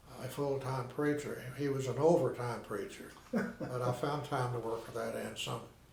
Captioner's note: laughing